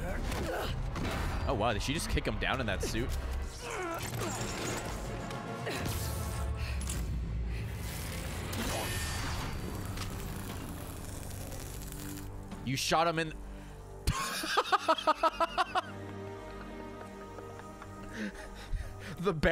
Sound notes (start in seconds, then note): 10.0 laughs